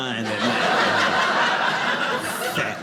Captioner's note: audience laughing